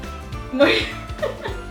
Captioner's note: laughter